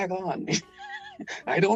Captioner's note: laughing